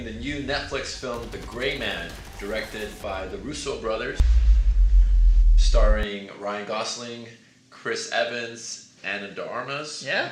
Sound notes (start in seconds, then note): 1.0 guns firing; 4.2 dramatic music